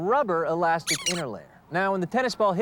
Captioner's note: squeaks